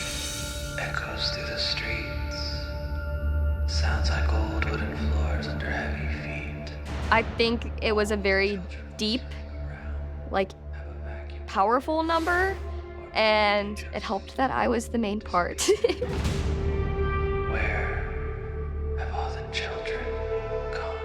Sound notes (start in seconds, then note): 19.7 giggles